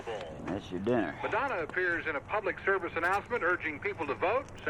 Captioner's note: man, on radio